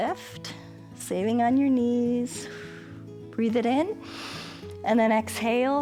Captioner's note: exhales; inhales